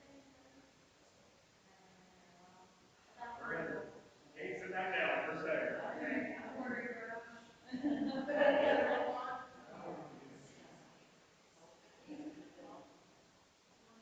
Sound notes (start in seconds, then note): 3.0 people chattering distantly continues